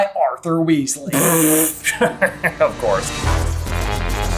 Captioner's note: chuckles; intro Theme Music